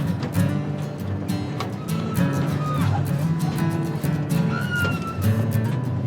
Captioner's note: voices cheer over music